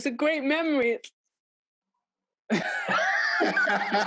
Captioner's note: laughing